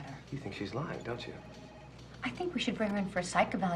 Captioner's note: phone ringing